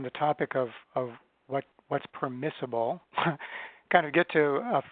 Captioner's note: chuckles